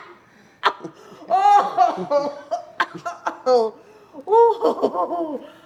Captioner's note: coughs; laughs; coughs